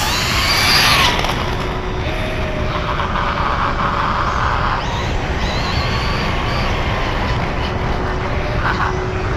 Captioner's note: electric motor screaming